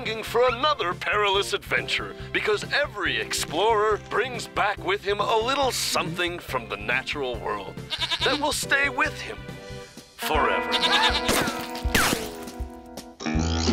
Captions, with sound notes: WILL LEAVE YOU LONGING FOR ANOTHER PERILOUS ADVENTURE, BECAUSE EVERY EXPLORER BRINGS BACK WITH HIM A LITTLE SOMETHING FROM THE NATURAL WORLD... (bleats) THAT WILL STAY WITH HIM... FOREVER. (screaming)